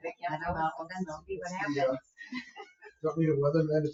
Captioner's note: people chatter